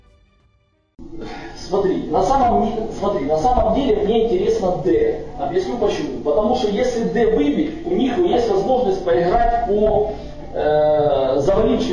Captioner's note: speaks on the phone